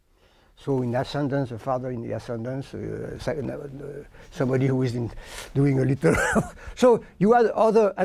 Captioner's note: laughs